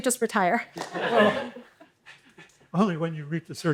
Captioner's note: laughter